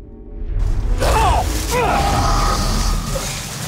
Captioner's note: animal snarls